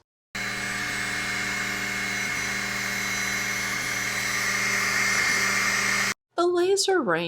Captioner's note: noise from laser running